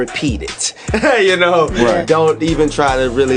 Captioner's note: laughing